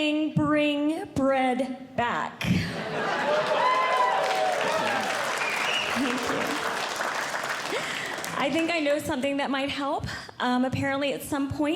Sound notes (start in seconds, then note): 2.9 audience Cheering; 5.9 audience Clapping